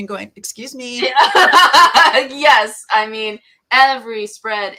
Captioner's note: laughs